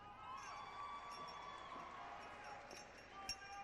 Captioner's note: cheering